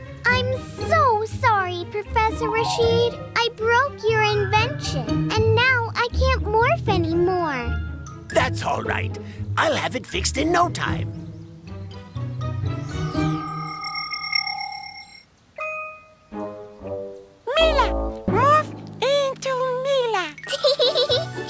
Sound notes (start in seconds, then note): 13.2 electronic humming; 20.4 giggling